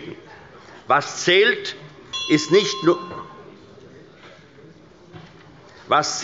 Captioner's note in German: Anhaltende Unruhe – Glockenzeichen des Präsidenten